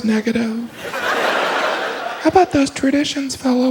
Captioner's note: audience laughs